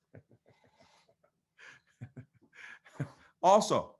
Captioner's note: laughs